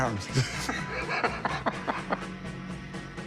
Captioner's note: laughs